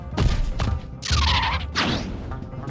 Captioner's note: screeching